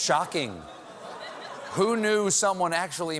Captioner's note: audience reacts